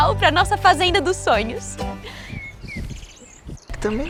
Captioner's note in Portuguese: Pássaros